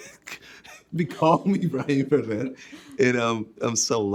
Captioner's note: chuckling